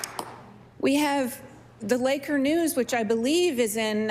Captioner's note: applause